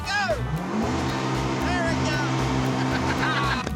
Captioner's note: revving; laughter